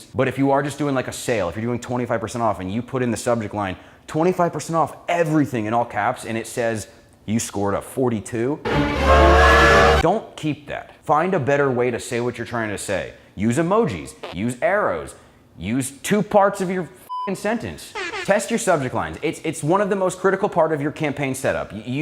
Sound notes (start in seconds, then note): 8.7 loud intense music; 17.1 beep sound